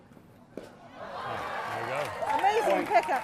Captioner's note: audience cheering